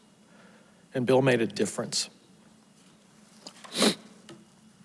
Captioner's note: sniffles